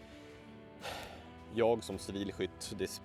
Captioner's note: sigh